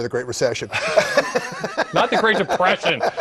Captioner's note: laughing